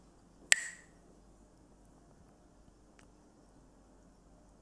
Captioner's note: Mooji clacks the sticks